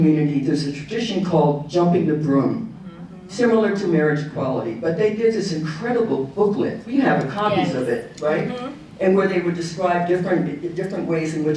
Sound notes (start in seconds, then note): none